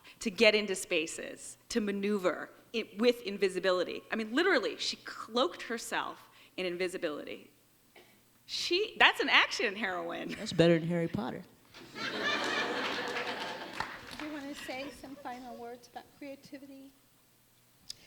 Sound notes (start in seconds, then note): 11.7 audience laughs